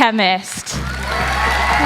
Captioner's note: applause